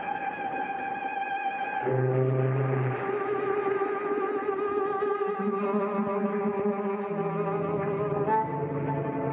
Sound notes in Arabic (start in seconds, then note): 1.7 يصدر صوت البوق; 5.6 تستمر الموسيقى المتوترة